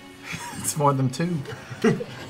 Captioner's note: laughing